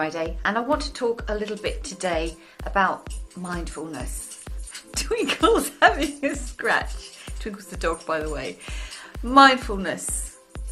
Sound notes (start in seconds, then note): 3.1 scraping and shuffling